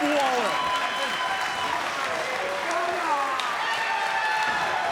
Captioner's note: crowd cheering